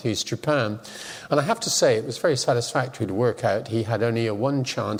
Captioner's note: none